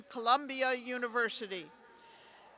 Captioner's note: cheers